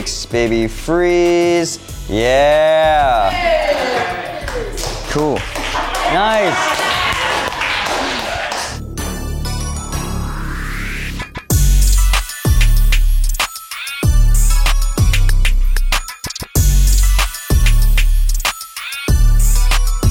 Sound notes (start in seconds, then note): 2.7 aerialists cheering; 9.3 hip-hop instrumental music